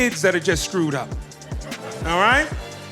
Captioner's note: audience laughing